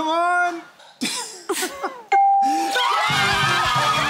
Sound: cheering and screaming

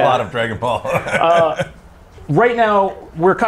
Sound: laughter

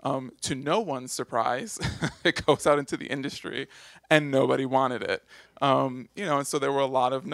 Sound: laughs

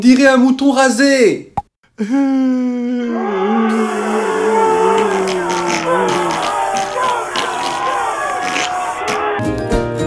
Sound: psss, snorts

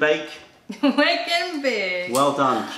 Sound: laughter

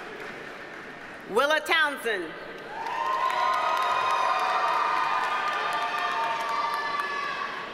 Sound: audience cheers and applauds

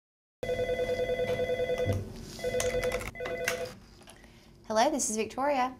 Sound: phone Ringing

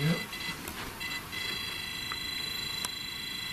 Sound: device beeps

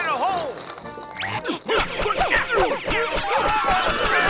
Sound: grunting; screaming

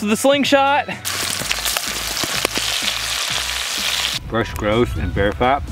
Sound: oil sizzling

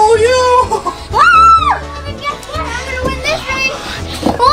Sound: screams

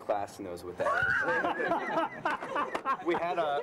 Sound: laughter

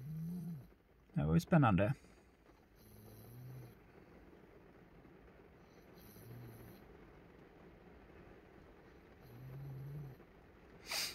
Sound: snoring noices in the background

